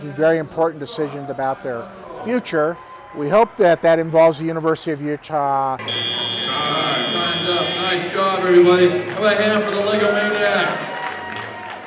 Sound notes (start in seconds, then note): 5.8 buzzer